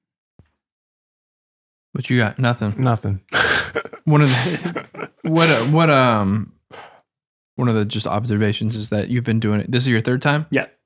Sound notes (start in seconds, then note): 3.3 laughs